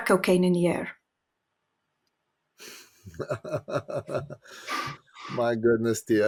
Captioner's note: laughing